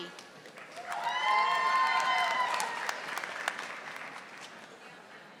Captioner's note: audience applauding